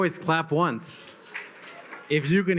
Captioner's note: attendees clap